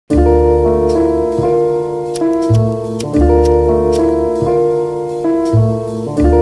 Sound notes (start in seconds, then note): 0.1 lighter clicks